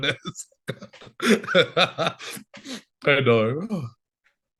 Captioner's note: laughing